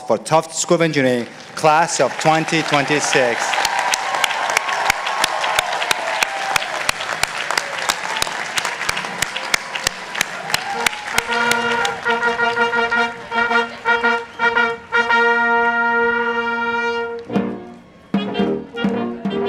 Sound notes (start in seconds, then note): 3.9 participants applauding; 12.1 gentle music